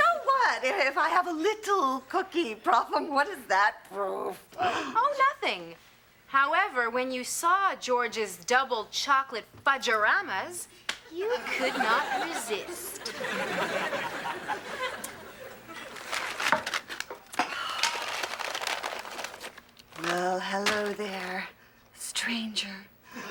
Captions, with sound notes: - Well, so what if I have a little cookie problem? What is that proof? - Oh, nothing. However, when you saw George's double chocolate fudgoramas. - You could not resist. (Paper unwrapping) - Well, hello there... stranger.